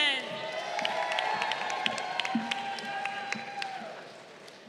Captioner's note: crowd cheering